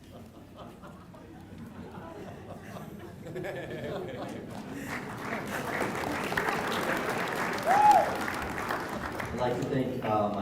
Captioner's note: applause